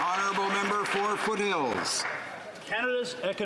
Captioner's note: applause